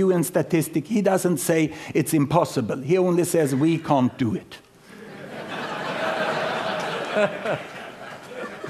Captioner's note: laughter